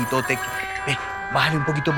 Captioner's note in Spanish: Suena el teléfono